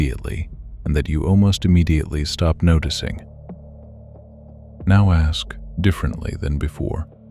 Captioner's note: low voice